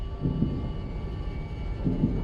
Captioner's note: heart beats loudly